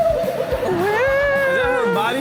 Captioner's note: Rob imitates noise